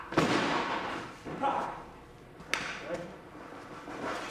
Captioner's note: body thuds